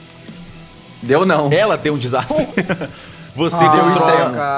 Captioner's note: laughs